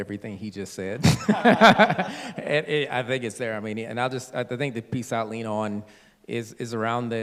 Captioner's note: laughter